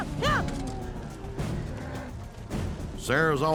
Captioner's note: cattle mooing